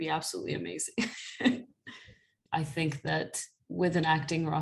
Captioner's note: laughter